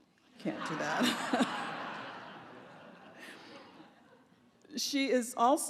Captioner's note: laughter